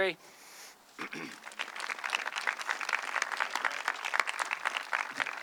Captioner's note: audience clapping